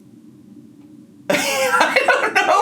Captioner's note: laughing